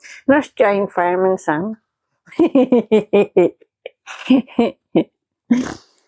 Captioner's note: laughs